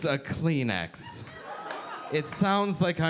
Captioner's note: audience laughing